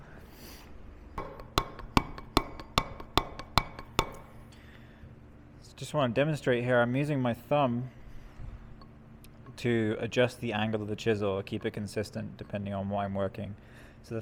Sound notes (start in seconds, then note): 1.1 metal hammering